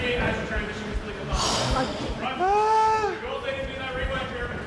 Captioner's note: sighs